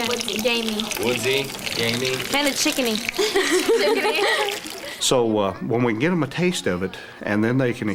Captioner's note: laughter